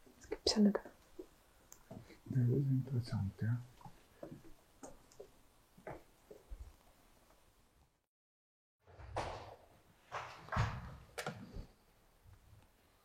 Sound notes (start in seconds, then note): 10.2 heavy door slamming; 11.3 silence